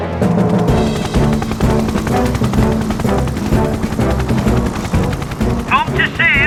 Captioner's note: helicopter Rotors Whir; heroic Music